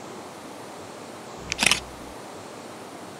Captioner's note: camera shutter